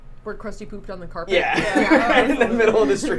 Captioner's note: laughs